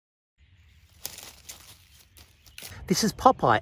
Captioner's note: grass rustling